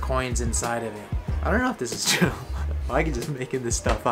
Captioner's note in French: rigole